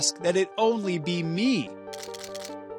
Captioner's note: cameras clicking